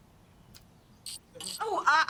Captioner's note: chittering